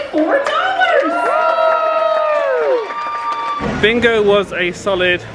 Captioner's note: players cheer